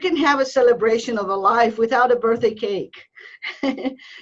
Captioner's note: giggling